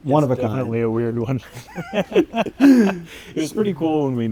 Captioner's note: both laughing